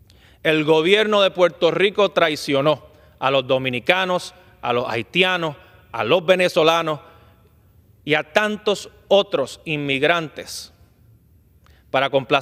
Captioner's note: speaking spanish